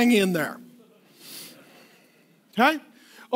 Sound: laughing

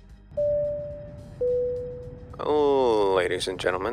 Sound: airplane bell dinging

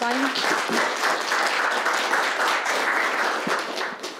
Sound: applause

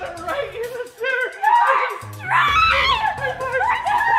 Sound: screaming

